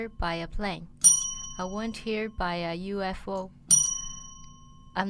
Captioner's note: bell rings